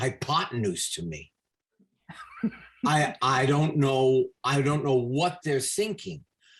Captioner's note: laughs